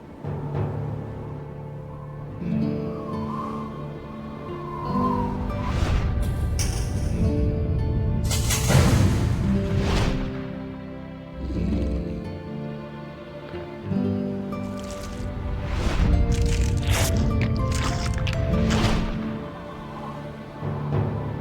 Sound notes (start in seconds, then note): 5.8 low whooshing; 5.8 shotgun loads; 8.5 shotgun cocks and fires; 11.3 raptor growls; 15.9 Raptor biting and crunching; 16.2 Raptor licks lips; 16.4 low whooshing; 16.4 soft music